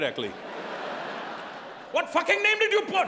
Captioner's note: audience laughing